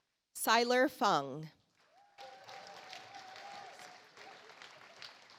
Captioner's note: audience applauds